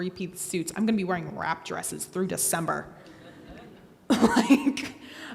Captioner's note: laughs